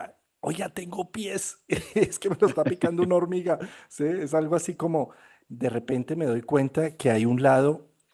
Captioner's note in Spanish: risas